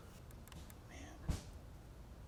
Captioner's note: whispers